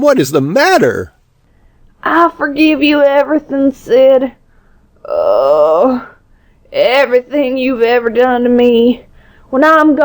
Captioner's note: groan